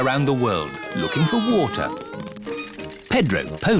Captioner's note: all mimicking aeroplane sounds